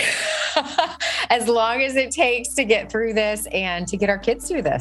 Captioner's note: laughs